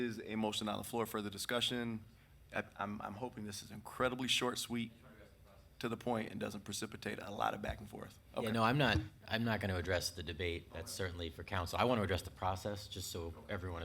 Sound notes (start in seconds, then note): 5.6 speaking distantly